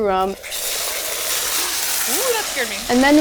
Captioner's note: sauce simmers